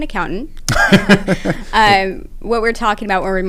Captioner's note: laugh